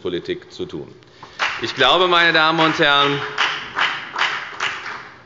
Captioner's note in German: Beifall bei der FDP und bei Abgeordneten der SPD